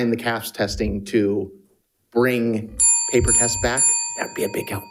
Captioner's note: bell dinging